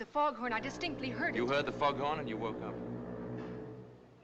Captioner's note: foghorn Blows